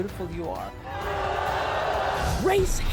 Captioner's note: crowd boos